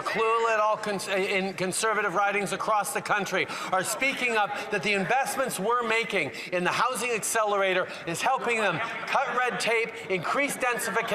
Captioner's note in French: voix de l'interprète